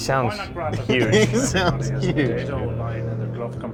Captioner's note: laughing